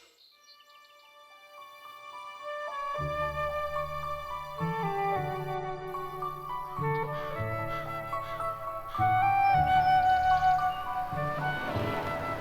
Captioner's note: car horn honking